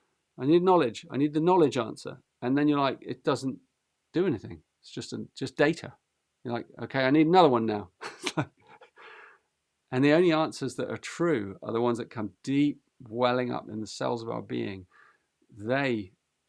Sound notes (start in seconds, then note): 8.0 laughs